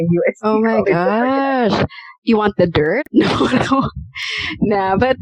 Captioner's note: laughter